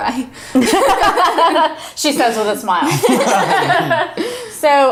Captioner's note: laughs